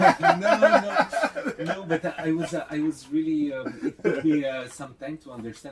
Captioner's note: laughs